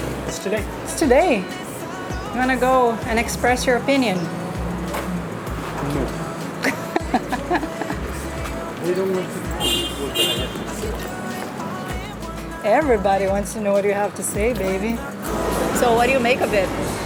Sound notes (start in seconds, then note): 5.6 chuckles